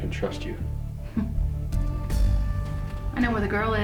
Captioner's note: Denise chuckles